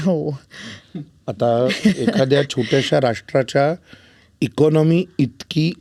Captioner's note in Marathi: हास्य